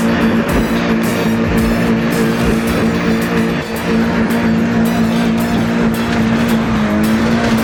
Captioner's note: engine revving